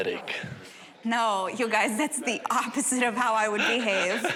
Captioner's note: laughing